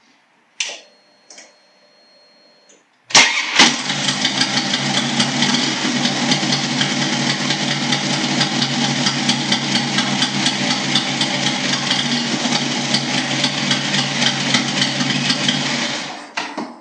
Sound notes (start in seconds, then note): 3.1 engine noise